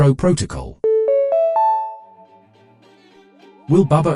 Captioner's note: notification chime